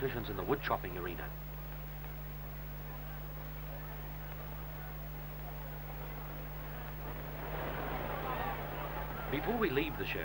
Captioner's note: crowd noise